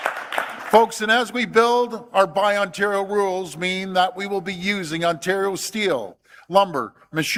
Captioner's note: applause